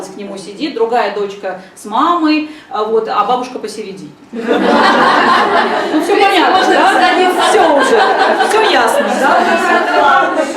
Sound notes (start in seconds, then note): 4.4 laughter in the audience